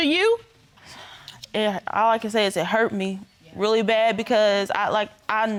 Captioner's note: sighs